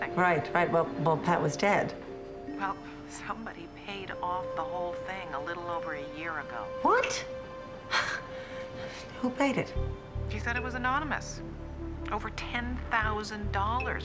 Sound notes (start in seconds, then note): 7.9 sighs